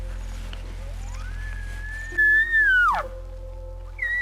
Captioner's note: deer call